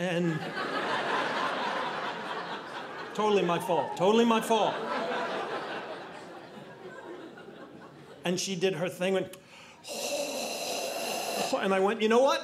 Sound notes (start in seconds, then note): 0.2 audience laughing